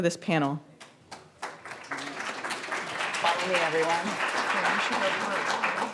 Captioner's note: audience applauds